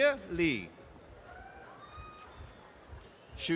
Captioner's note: applause and cheering